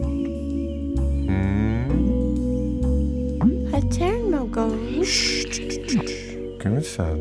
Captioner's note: both speaking gibberish